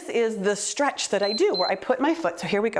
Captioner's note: timer beeps